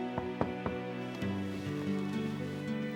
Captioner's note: gentle music; knocking; gentle music